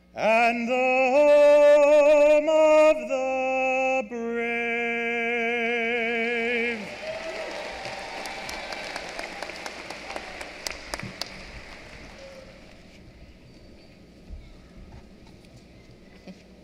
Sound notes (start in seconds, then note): 6.8 applause